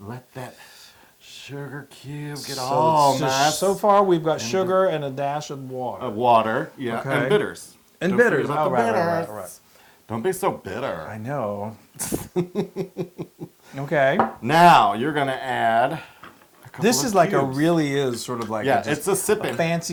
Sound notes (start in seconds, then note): 12.0 laugh